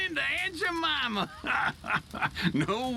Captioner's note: laughs